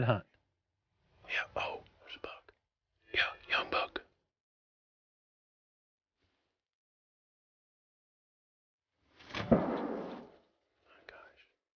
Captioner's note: whispering